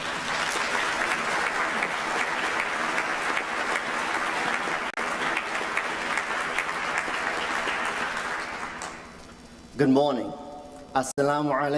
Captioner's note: applause